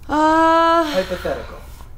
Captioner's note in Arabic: تتنهد بحزن